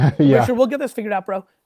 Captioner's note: laughs